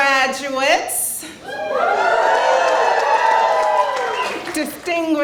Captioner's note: cheering